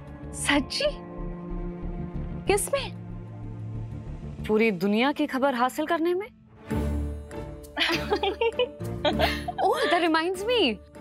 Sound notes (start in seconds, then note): 7.8 chuckles